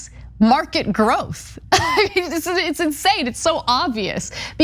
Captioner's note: laugh